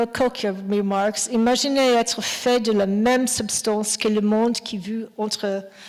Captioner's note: speaking French